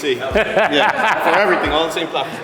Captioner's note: laughing